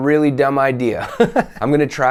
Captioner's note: laugh